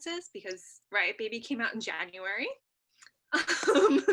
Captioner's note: chuckles